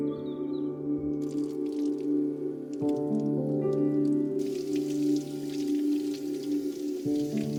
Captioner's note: somber music; water streaming